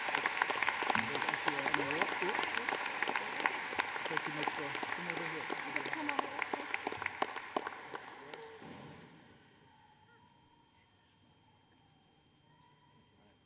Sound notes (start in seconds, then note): 2.2 applause